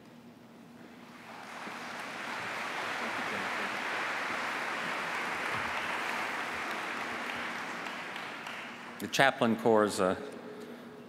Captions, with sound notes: BLESSINGS ON ALL OF YOU. [APPLAUSE]